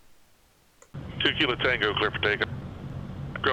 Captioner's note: radio